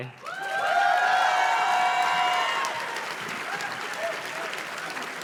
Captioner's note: audience cheers and claps